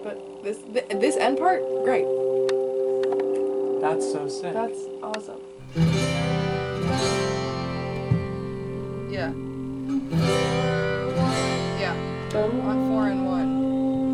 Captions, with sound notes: - Yeah, shit. But this end part, great. - That's so sick! - That's awesome. - (hums) Yeah. Four, one. Yeah. On four and one.